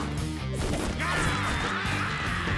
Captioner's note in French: les créatures hurlent